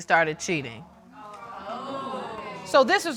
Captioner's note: audience exclaiming